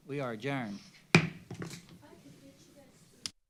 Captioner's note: gavel